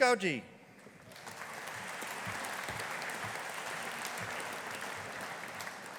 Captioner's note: audience applauding